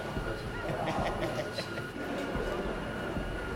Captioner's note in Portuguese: risos